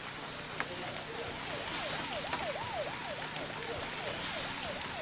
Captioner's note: siren whirls